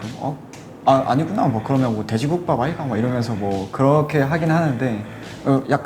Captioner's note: busan accent